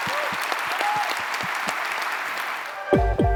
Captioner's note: cheering and applause